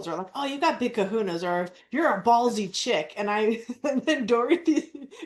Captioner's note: laughs